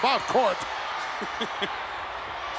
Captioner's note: laughing